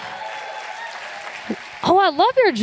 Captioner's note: applause